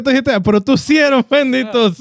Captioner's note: speaking In Foreign Language